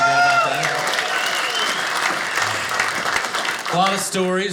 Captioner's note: audience cheers